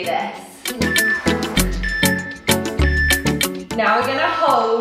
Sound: timer beeping

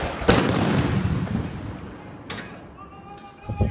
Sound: gunshots popping; explosive booms

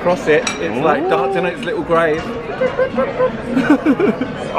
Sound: laughs

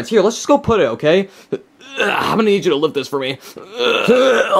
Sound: grunts

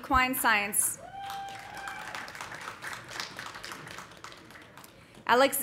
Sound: audience cheering; audience applauding

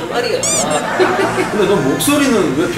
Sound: laughter

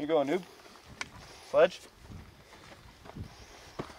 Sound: none

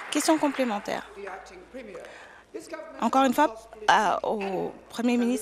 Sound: applause

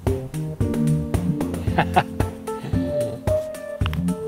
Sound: laughs

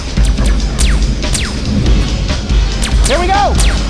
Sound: guns zapping

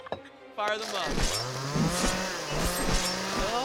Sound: whirring

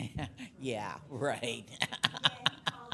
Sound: laughs

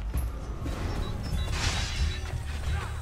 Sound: fighting sounds

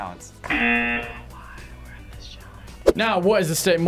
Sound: whispers

